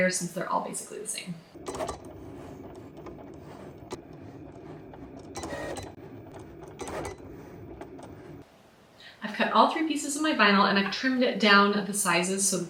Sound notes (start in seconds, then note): 1.4 Cricut beeping